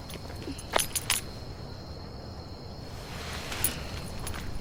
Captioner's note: insects chirping